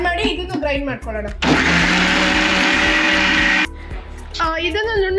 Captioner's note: mixer noise